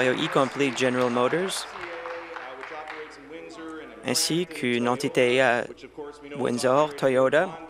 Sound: applause

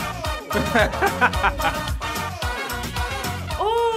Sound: upbeat music; laughs

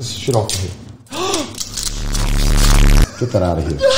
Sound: gasps

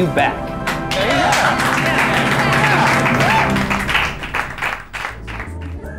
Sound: clapping and cheering

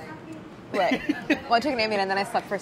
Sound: laughing

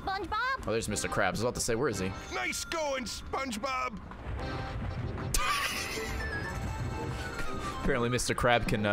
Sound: laughs

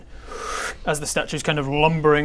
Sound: breathes in

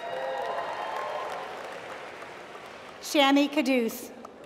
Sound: applause

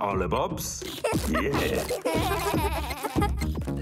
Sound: laughing

